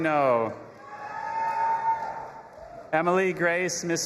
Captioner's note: audience applauding and cheering